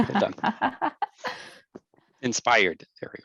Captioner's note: laughing